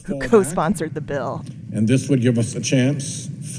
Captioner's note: soundbite of archived recording